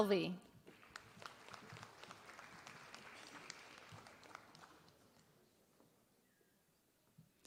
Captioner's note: applause